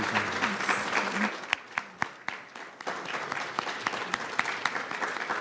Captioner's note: audience applauding